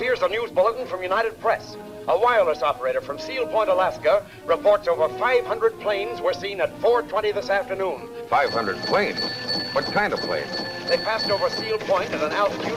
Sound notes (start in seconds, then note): 8.3 bell ringing